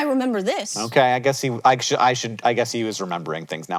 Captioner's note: stuttering